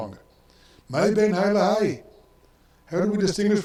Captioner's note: speaks in foreign language